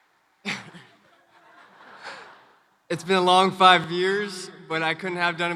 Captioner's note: laughs